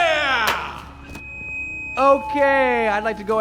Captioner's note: microphone interference